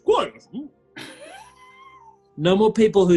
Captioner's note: sniggering